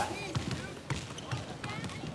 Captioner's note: basketballs bouncing